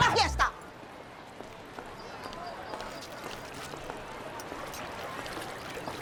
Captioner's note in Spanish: Bullicio